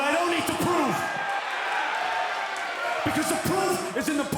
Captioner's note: crowd cheering